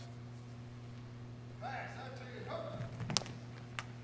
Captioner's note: shouting